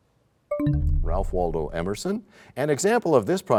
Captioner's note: bell chimes, time expires